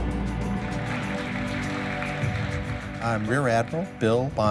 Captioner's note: applause